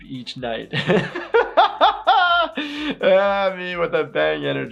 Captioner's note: laughing